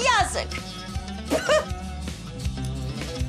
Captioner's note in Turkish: tükürüyor